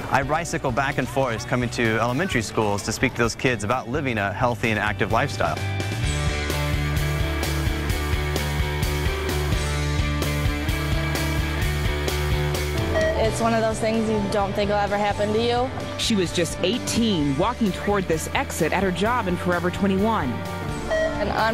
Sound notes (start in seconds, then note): 6.0 upbeat instrumental music; 16.1 voiceover